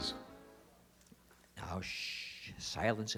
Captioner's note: shush